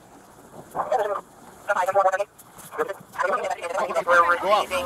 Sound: radio dispatching in background

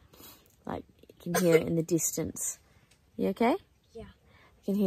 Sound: coughs; coughs again

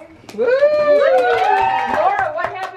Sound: claps

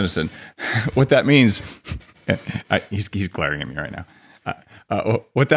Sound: chuckles

